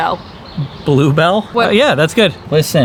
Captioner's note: chuckles